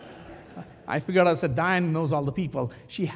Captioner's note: laugh